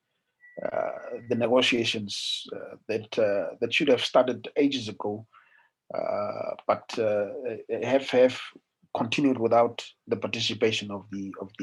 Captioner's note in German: in Deutsch